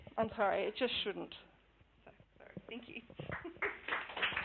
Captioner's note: clapping